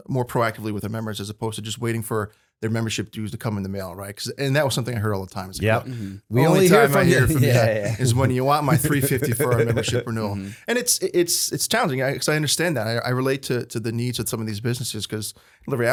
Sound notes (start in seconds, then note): 8.7 laughter